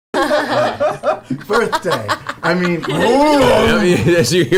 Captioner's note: growls